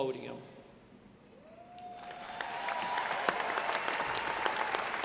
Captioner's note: audience applauding